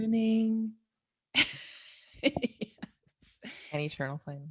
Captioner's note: laughs